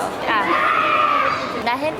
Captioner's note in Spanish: Grito de niño